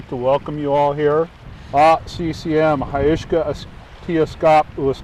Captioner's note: speaks in foreign language